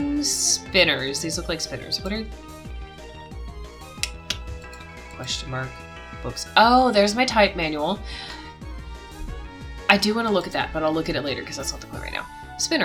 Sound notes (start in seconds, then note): 3.0 clicks tongue